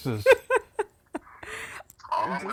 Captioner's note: laughing